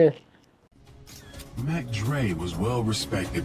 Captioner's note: camera clicking